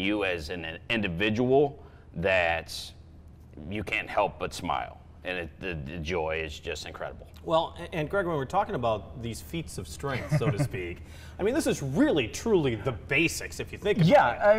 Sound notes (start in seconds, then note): 10.1 laughs